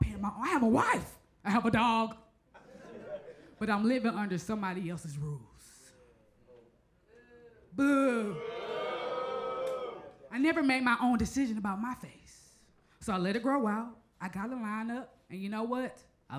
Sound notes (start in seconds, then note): 8.0 crowd